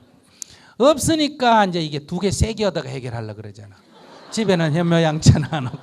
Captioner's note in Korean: 청중 웃음